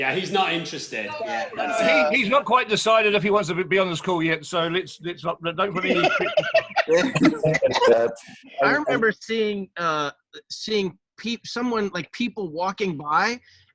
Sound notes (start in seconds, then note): 5.1 trails off; 5.6 group laughs